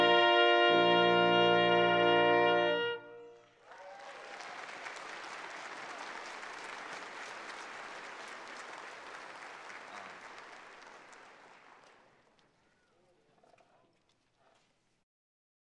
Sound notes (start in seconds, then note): 3.4 cheers and applause